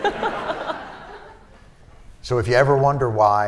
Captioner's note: laughter